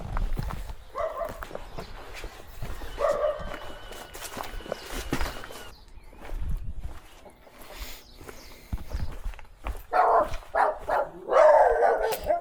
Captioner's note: dog barking